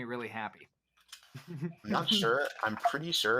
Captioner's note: moderator 1 laughs